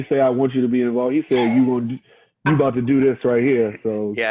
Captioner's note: laughs